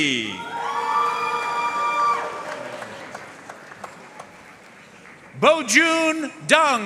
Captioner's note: audience cheering and applauding